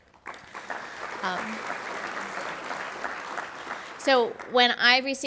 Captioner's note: audience applauds